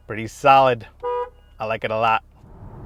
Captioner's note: car horn honking